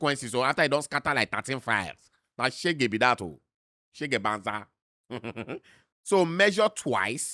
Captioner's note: chuckles